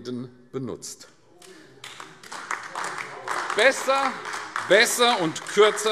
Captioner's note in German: Beifall AfD